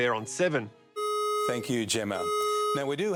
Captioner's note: fire alarm blaring